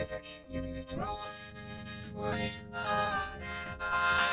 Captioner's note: breathing heavily